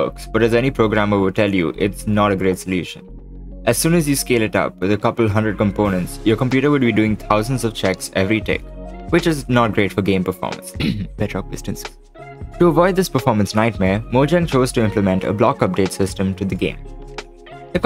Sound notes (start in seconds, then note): 10.8 cough